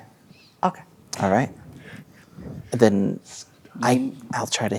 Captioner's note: quietly